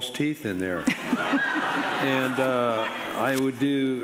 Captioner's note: audience laughing